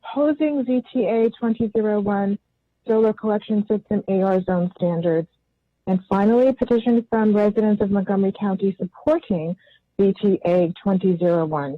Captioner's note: spanish